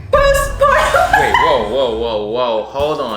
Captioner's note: laughing